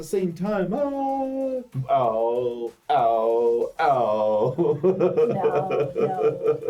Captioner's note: laughs